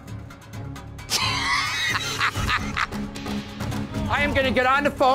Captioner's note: laughing